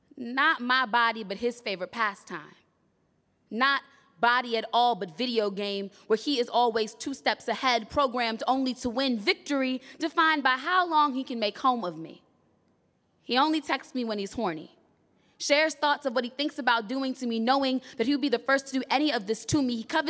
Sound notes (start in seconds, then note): none